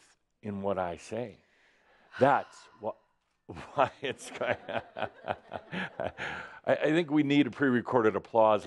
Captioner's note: sighs loudly; Adamus laughs